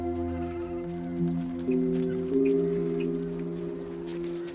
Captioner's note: sheep bleating